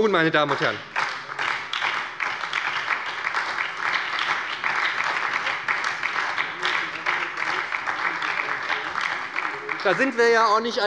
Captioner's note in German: Beifall bei der SPD